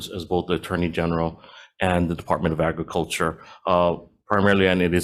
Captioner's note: none